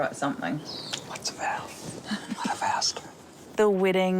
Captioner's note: chuckles